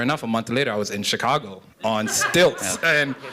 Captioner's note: laughter